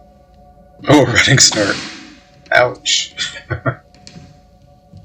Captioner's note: chuckling